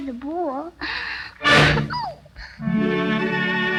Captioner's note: door slams; gentle music